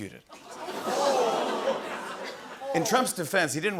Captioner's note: audience gasps